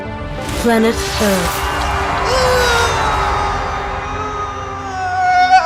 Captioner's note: pedantican groans melodramatically